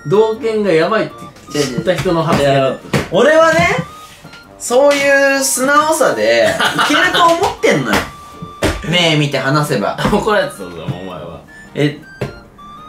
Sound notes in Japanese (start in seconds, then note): 8.9 笑い声